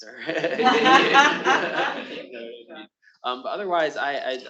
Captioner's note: attendees laughing; laughing